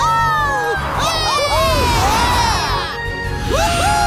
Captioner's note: cheering